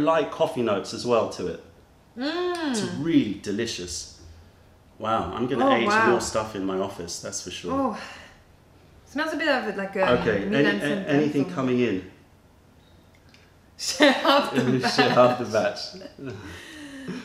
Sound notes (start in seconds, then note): 14.0 laughter